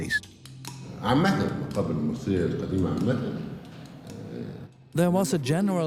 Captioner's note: in Arabic